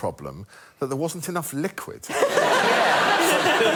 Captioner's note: laughter